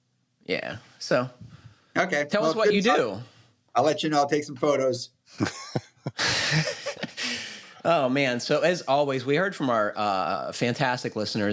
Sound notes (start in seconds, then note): 5.3 laughter